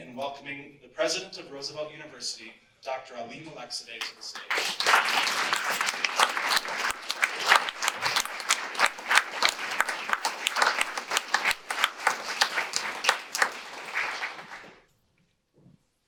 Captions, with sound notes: welcoming the President of Roosevelt University, Dr. Ali Malekzadeh, to the stage. [audience applause]